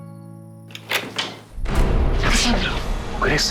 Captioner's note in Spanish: Sonido al abrir la puerta